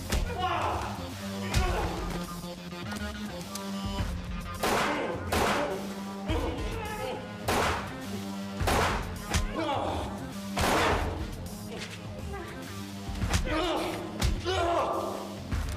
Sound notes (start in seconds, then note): 4.7 gunshots firing; 4.7 tense music continues; 10.4 blows thudding; 10.5 gunshots firing